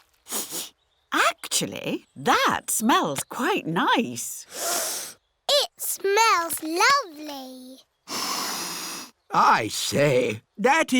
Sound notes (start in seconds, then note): 0.2 sniffs; 4.7 sniffs